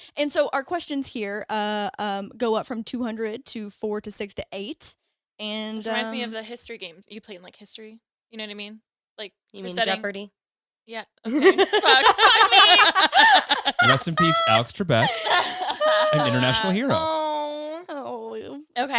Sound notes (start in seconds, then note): 11.3 all laughing